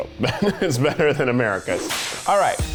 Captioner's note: laughs